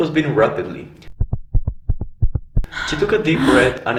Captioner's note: heart beating sound